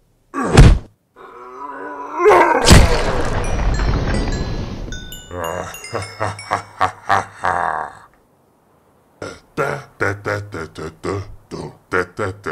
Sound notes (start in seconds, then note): 0.4 punch; 2.6 punch; 9.2 singing